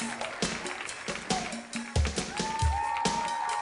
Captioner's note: loud cheering and applause